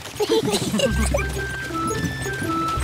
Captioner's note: all giggle